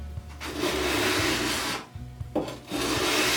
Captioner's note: sanding